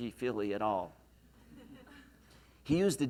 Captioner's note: laughs